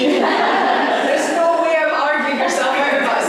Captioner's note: laughter